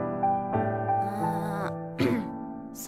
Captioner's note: clears throat